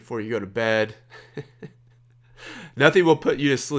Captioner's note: laughs